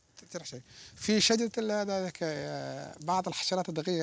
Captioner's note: Arabic spoken audio